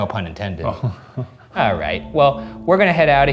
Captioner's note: laughing